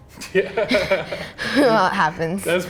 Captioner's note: laughs